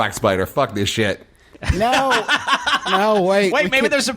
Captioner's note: Merle laughs